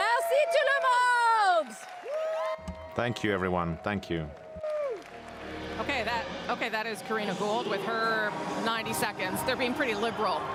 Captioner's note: cheering and applause